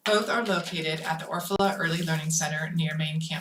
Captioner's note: none